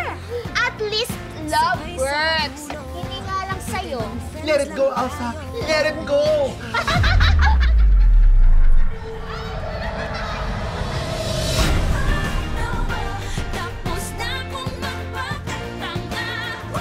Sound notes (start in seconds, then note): 6.6 laugh